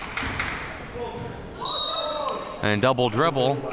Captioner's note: whistle blowing